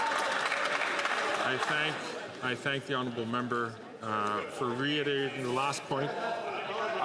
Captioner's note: some Applause